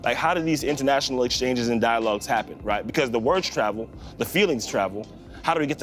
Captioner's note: none